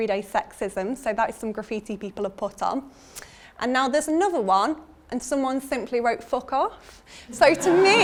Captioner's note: audience laughter